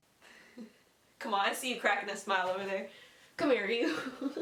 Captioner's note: laughing